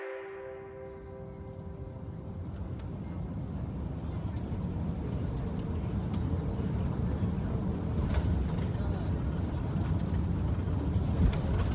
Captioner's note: the sound of an Airplane at cruising altitude